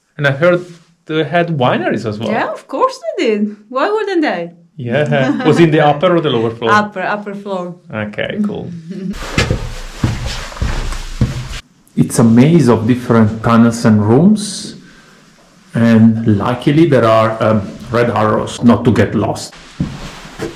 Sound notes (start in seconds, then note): 5.0 laughing; 9.1 footsteps; 19.6 footsteps